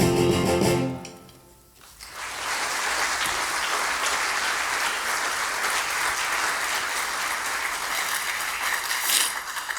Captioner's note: music out. Applause